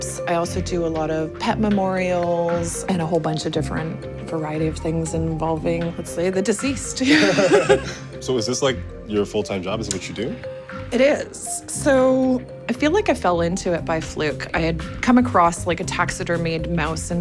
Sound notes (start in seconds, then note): 7.0 laughs